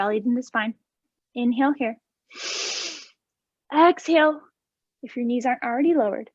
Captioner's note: inhaling